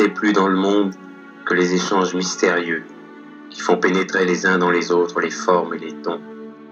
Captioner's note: voiceover of man speaking in french